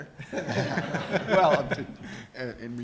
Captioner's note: audience laughs